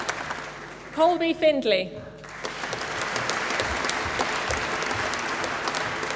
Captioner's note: applause